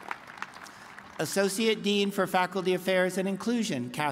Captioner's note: applause